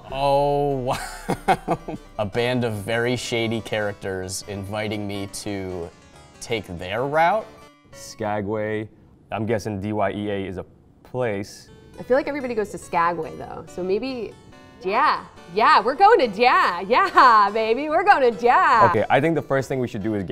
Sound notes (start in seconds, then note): 0.9 laughing; 16.9 laughing